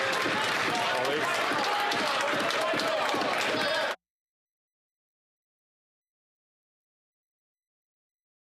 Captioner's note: applause